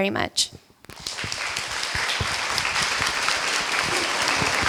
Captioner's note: applause